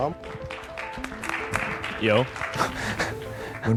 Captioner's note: applause